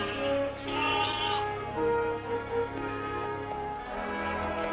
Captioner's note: bleating